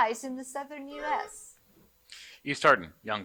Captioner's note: buzzer buzzing